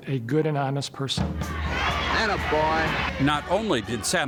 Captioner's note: audience cheering